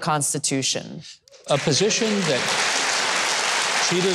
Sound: audience claps

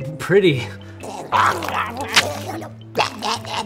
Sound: gurgling

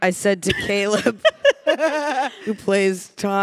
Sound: panelists laughing

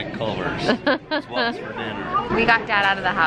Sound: laughs

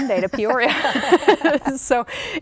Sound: laughing

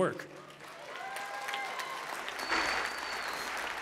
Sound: applause

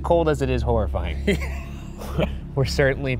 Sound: laughs

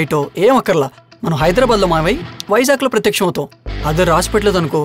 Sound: snaps finger

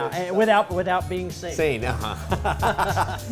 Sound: both laughing

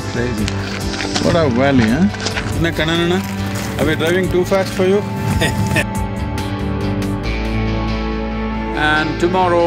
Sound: laughs

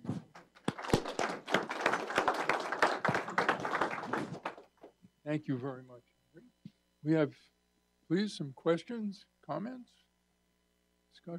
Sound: applause

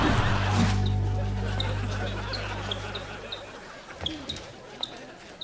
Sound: squeaking

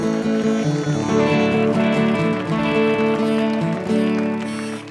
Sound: audience applauding

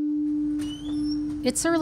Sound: door creaking

